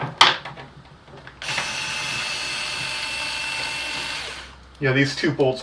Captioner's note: whirrr